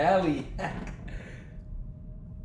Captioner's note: mocking laugh